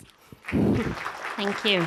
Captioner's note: audience applauds